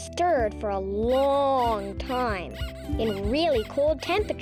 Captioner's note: pig squeaking